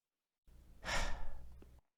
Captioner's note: sigh